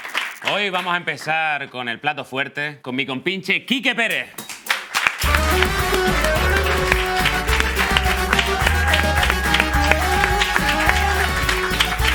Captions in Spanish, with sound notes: Hoy vamos a empezar con el plato fuerte, con mi compinche Kike Pérez. (Aplausos)